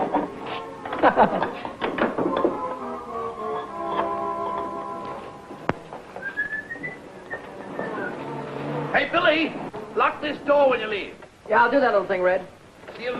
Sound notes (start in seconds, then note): 0.9 Billy chuckling; 6.1 Red whistling